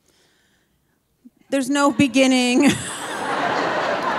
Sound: audience laughing; laughs

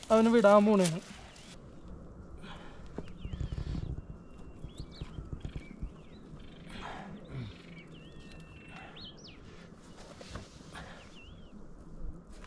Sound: birds chirping

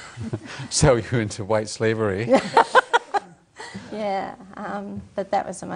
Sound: laughs; laughs

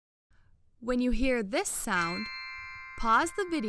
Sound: magical chime

